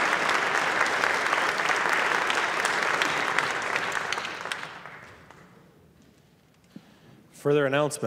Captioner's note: applause